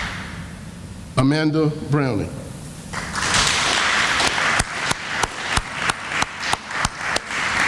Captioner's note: sounds of applause